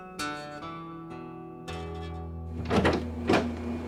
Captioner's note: guitar strumming; door shuts